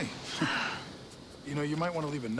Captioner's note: woman sighs